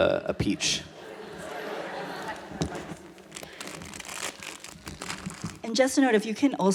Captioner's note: audience laughter